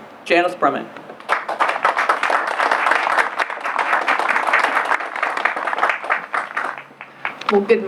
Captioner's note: applause